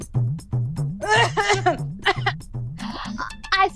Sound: coughing

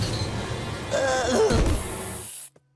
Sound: groaning, thudding

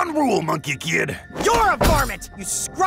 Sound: hands thunk

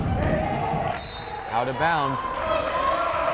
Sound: whistle blows

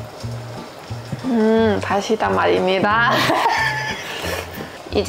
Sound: laughing

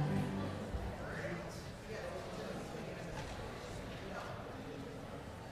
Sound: congregation chattering

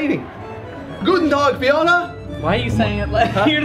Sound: foreign language

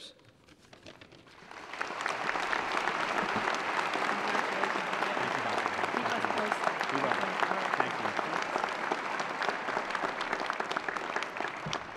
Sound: applause

